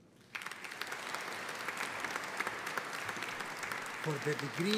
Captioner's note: audience applauding